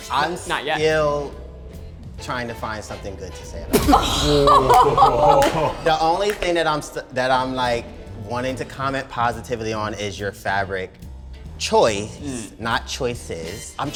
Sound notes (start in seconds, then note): 3.7 laughs; 3.8 participants gasp